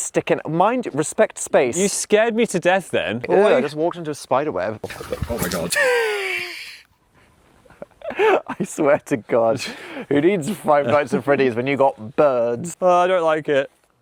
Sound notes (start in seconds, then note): 4.9 bird flutter; 8.0 laugh